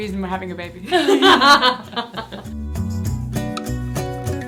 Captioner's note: laughing; gentle music